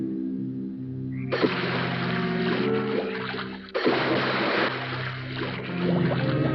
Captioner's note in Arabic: رشات ماء; خرخرة ماء